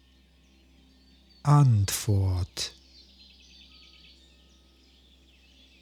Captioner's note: german